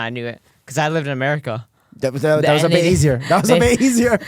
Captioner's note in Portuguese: risos